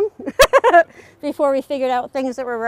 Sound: laughing

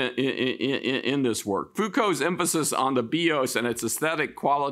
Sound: speaks in Greek

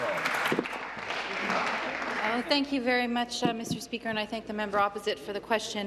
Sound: applause

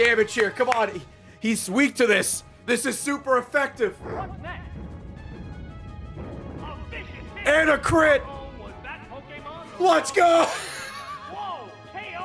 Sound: laughs

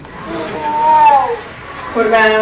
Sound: cooing

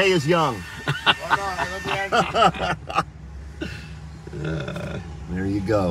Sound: laugh

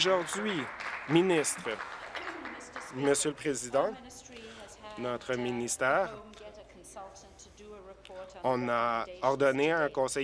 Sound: applause

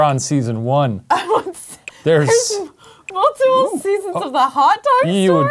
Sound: laughs

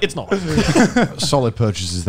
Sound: laughing

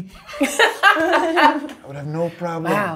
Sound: all chuckling

